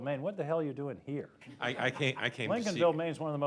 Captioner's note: laughter